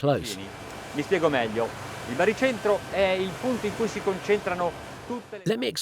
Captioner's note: speaking in foreign language